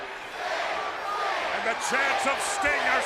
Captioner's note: crowd chatter